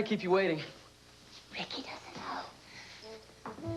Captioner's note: whispering